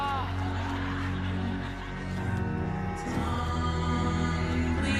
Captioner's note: laughter